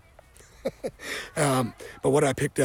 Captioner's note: laughs